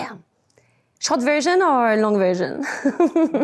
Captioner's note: laughs